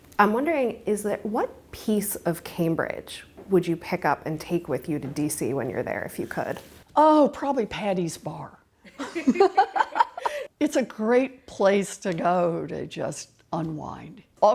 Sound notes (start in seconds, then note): 8.9 both laughing